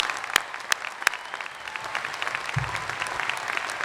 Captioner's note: applause